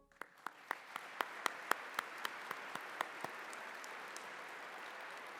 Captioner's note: applause